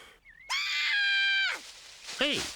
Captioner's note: screaming